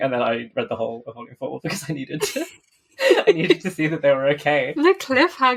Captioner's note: laughs